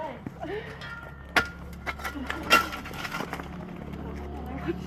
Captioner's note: digging